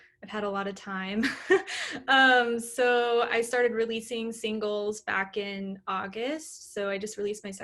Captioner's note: laughter